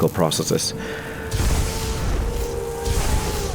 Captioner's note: zaZAAAP!!; kaZAAAP!!!